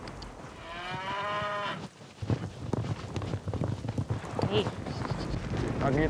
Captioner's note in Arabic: ضربات حوافر